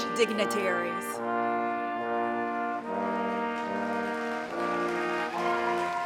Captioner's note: applause